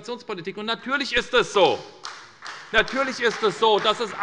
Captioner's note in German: Beifall bei der SPD und dem BÜNDNIS 90/DIE GRÜNEN